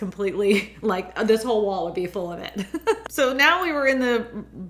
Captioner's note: laughs